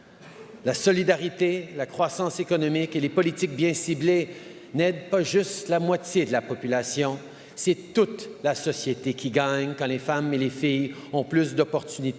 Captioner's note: speaks French